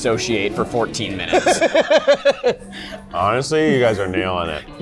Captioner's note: laughter